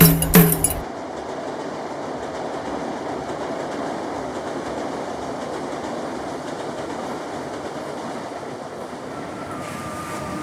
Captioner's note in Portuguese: barulho do trem